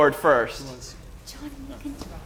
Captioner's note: whispers